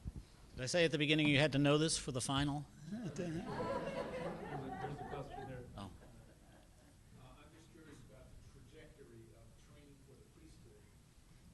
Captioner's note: laughter